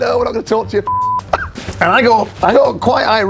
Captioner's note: beep